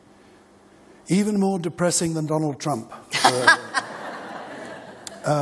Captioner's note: laughter